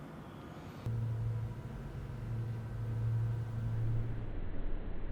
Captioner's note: engine running